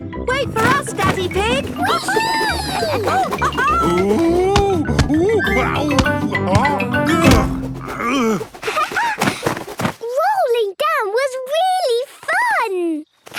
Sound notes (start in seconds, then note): 3.1 laughing; 7.7 laughing